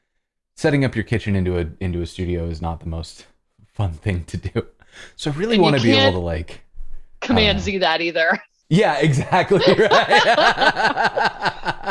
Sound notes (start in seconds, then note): 9.0 laughter